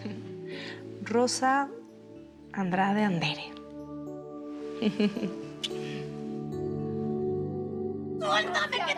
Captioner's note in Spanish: Ríe